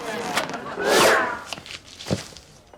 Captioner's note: swooshing; pop